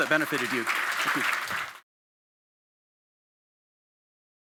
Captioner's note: audience clapping